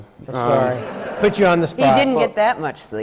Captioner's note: laughter